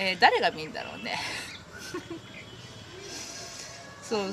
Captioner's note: laughing...^^